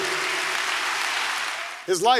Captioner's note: applause